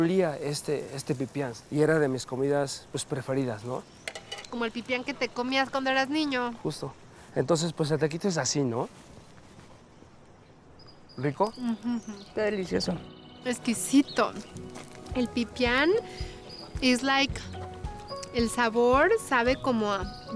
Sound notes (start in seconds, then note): 4.2 Pati speaking Spanish; 6.4 speaking Spanish; 11.0 speaking Spanish; 13.4 Pati speaking Spanish; 18.1 speaking Spanish